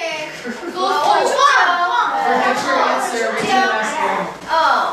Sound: chattering in foreign language

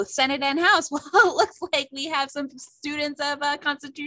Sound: laughter

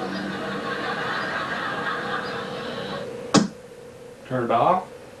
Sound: audience laughter

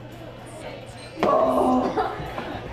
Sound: bar chatter

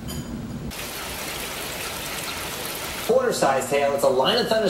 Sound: water rushing

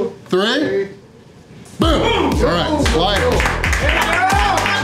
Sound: crowd cheering

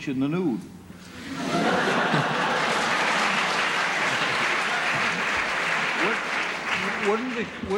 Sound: laughter

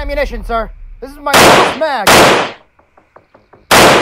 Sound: gunshot Sounds

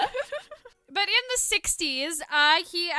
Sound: laughter

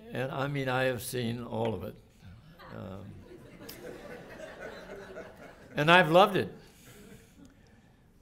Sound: laughter

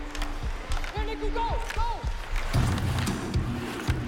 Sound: players shouting

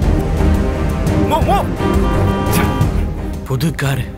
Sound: horn blares

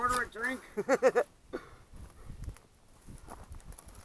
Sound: laughing

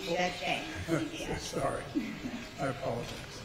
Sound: laughs

